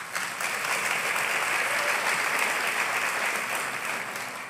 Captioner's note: applause